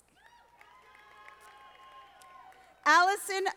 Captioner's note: audience applauding